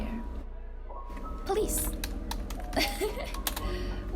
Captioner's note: laughs